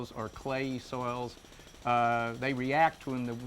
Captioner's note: jackhammer drilling